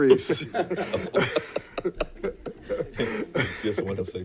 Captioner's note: laughter